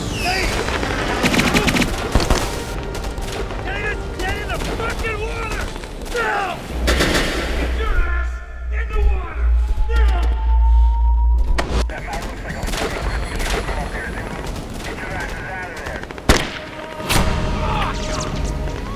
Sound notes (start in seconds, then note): 11.8 radio chattering; 16.2 gun firing; 17.3 groaning